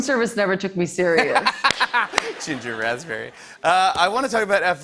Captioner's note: laughs